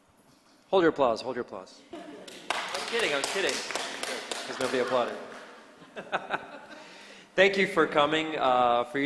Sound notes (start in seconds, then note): 2.2 applause; 4.6 laughs